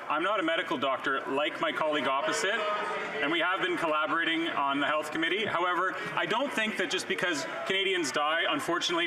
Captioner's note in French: voix de l'interprète